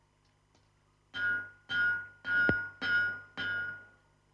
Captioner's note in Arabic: صوت المطرقة